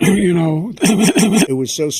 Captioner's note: cough; coughing forwards and backwards